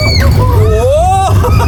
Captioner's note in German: gelächter